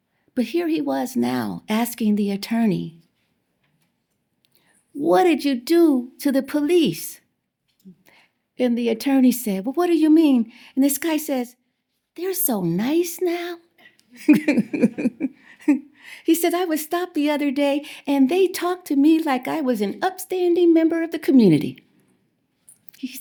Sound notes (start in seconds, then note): 14.1 laughter